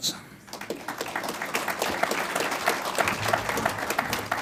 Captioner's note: audience applauds